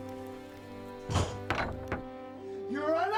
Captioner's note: door shuts